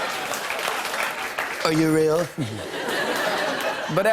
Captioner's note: laughter and applause; As Trump; laughter; normal voice